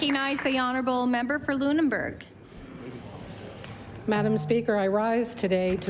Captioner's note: applause